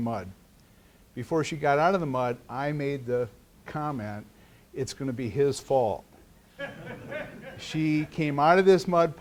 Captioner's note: laughter